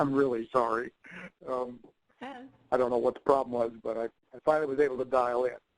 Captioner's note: chuckling